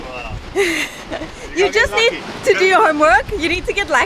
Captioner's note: laughing